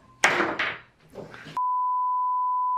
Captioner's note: screw falling; production beep